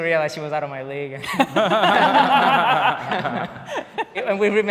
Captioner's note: people laughing